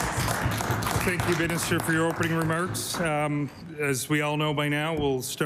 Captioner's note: applause